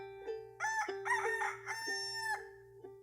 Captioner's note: rooster crow